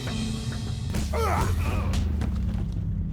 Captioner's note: men grunting